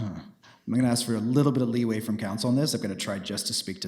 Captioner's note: sighs